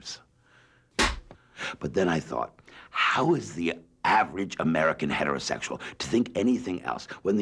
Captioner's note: slate clap